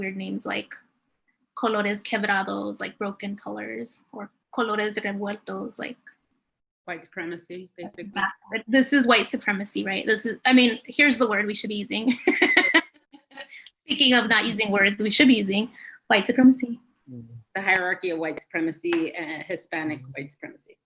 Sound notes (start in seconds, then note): 4.0 speaking in Spanish; 11.9 laughs